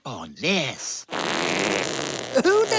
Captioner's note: farts